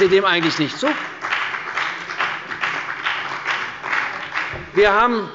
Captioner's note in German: Beifall bei der CDU und dem BÜNDNIS 90/DIE GRÜNEN